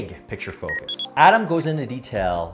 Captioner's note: electronics chirping; electronics beeping